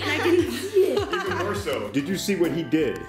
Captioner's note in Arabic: يضحك